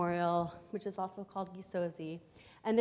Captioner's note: foreign language